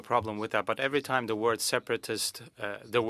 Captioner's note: speaking French